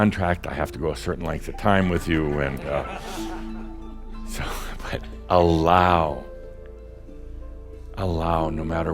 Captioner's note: some laughter